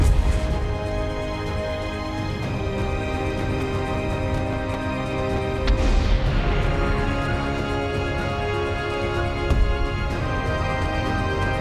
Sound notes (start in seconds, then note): 0.0 boom; 5.7 rockets fire; 9.6 impact